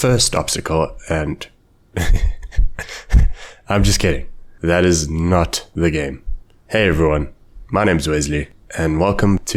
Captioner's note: laughter